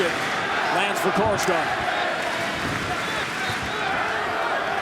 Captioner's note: clapping